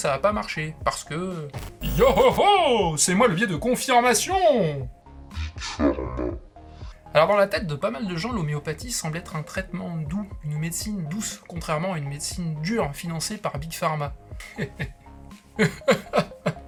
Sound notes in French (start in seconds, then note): 4.7 voix très grave de monstre; 15.5 rire puis pleurs